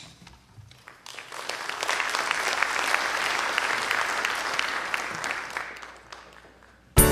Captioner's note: applause